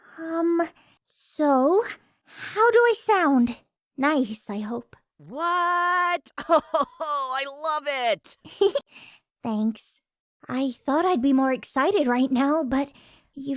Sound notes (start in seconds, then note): 8.5 giggling